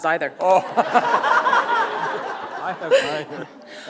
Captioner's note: laughter